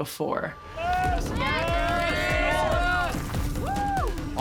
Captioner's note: crowd cheering